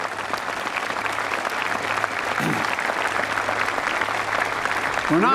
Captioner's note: applause